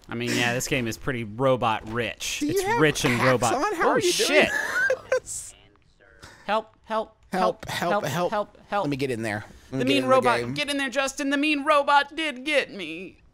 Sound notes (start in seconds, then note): 5.0 laughing